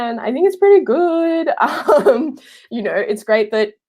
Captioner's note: laughing